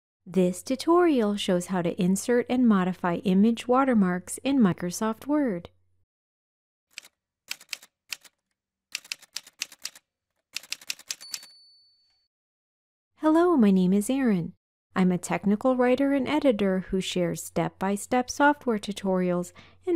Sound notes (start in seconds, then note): 7.0 typewriter sounds